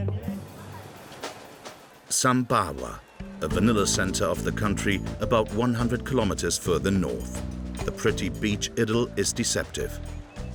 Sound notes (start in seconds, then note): 0.2 waves lapping